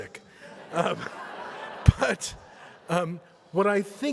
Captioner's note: audience laughs